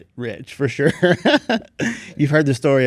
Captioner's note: laughs